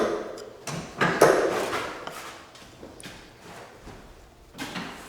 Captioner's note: tools clanging